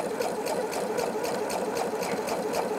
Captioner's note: rattling of a sewing machine